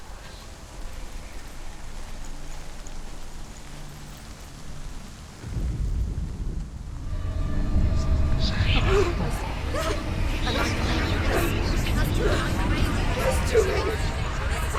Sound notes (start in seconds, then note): 12.2 whimpers